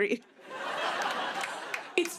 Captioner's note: laughter